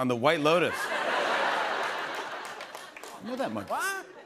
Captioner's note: laughter